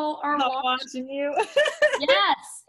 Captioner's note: laughs